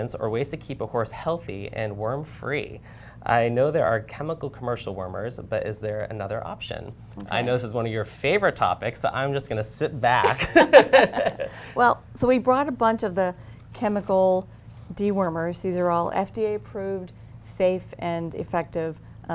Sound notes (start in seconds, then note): 10.2 laughter